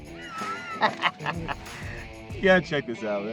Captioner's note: laughing